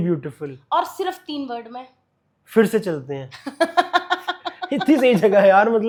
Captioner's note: laughs